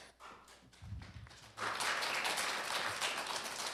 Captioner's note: applause